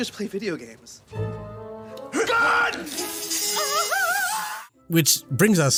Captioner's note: SWAT Team all yell; gamer shrieks in pain